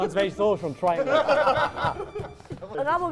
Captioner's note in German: Lachen